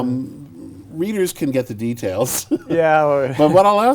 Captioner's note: laughs